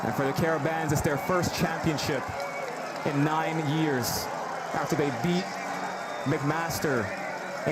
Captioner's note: cheers and Applause